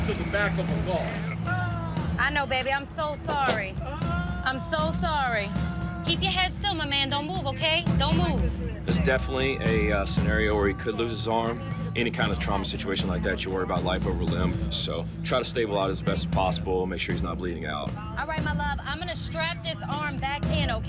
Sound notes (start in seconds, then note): 3.3 screaming